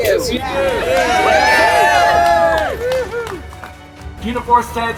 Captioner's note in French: applaudissements